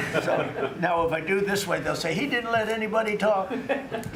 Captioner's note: laughter